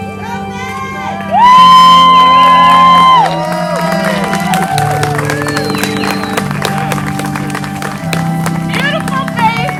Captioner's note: applause